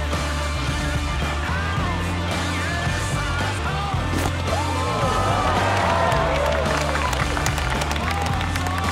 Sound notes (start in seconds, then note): 4.5 cheering